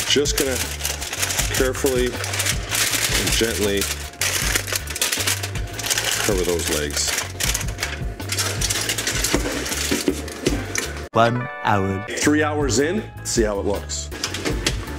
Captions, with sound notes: Just going to carefully and gently cover those legs. (foil rattling) - One hour. - Three hours in, see how it looks.